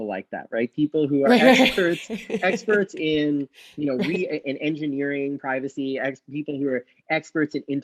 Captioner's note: laughs